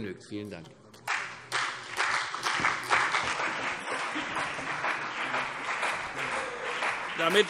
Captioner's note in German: Beifall CDU und BÜNDNIS 90/DIE GRÜNEN